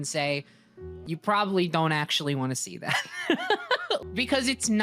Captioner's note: laughs